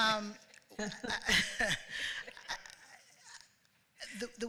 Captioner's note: laughter